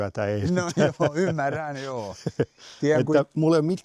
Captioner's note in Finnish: naurua